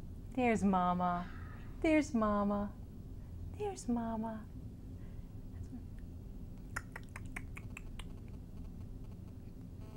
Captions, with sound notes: >>There's mama. >>Hi! There's mama. There's mama. [Tongue clicking sounds]